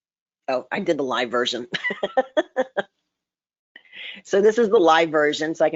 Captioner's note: laughs